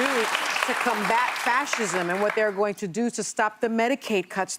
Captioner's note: cheers and applause